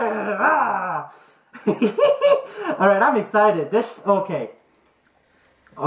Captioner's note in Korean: 이히히힛!